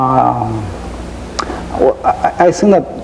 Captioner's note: lip smacking